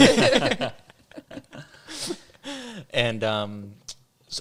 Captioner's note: all laughing